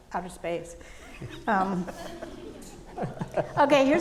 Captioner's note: audience laughing